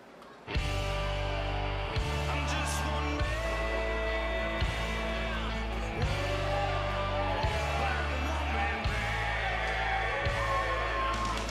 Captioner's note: crowd cheering